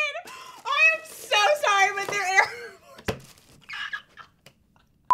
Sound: laughing

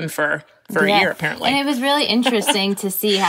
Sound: laughs

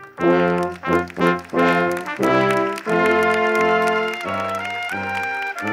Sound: audience applauding

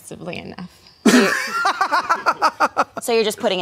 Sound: laughing

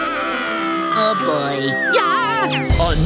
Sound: screaming

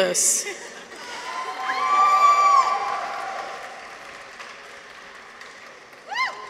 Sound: people cheer; audience applauds

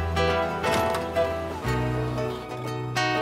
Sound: motorcycle clanks; soft instrumental music

